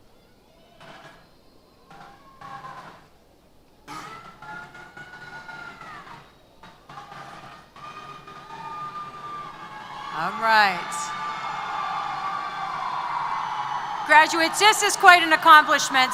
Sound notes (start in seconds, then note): 11.3 cheers